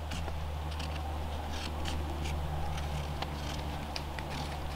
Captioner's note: marker scraping